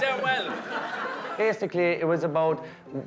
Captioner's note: guests laughing